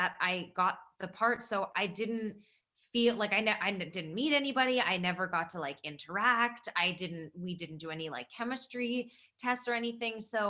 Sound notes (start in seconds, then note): none